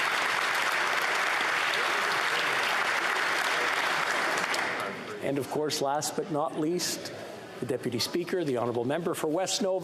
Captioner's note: applause